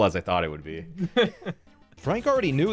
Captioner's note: laughing